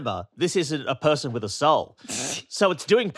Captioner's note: snorts